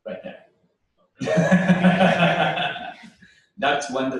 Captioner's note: laughter